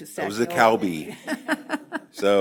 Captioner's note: laughter